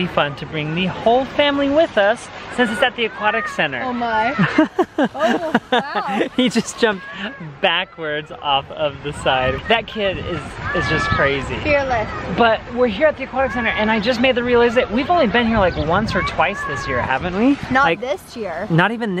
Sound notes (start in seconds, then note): 6.2 laughing